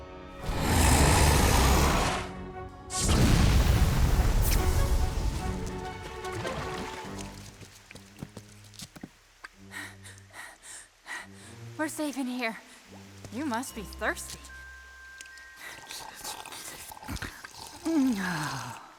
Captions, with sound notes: [ROARS] [PANTING] WE'RE SAFE IN HERE. YOU MUST BE THIRSTY. [SIPPING] AH.